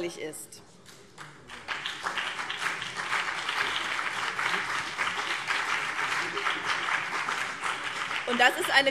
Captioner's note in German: Beifall BÜNDNIS 90/DIE GRÜNEN und vereinzelt CDU